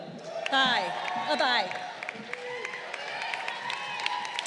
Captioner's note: crowd cheering